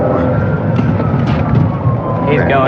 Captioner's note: sirenlaring